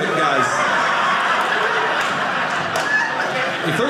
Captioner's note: audience laughing